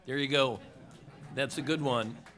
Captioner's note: laughter